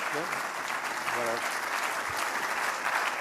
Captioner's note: applause